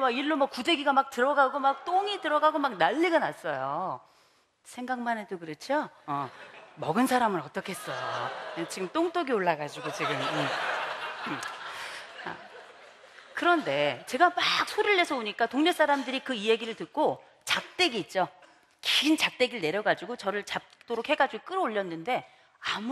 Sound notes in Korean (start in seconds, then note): 9.7 웃음